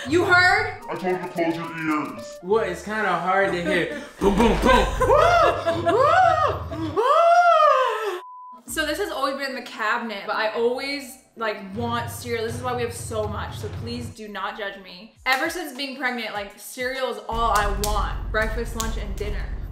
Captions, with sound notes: - You heard? I told you close your ears. - Well, it's kinda hard to hear boom boom boom. (shrieking mockingly) (laughing) (beeps) - So this has always been in the cabinet, but I always want cereal, this is why we have so much. So please do not judge me. Ever since being pregnant, cereal is all I want. (clapping) Breakfast, lunch, and dinner.